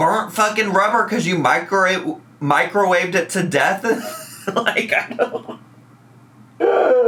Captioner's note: laughs